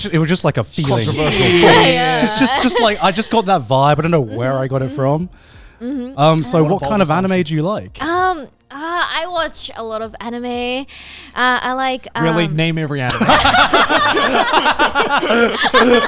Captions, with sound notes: - It was just like a feeling, - Controversial thoughts. - Shit. - Just I just got that vibe. I don't know where I got it from. So what kind of anime do you like? - I watch a lot of anime. I like- - Really? Name every anime. (all laughing)